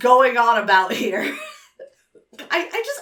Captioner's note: laughs